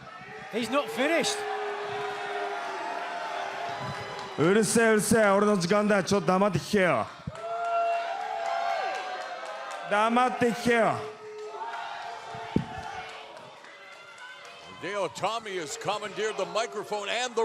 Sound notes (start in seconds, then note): 2.5 cheers and boos; 4.0 speaking foreign language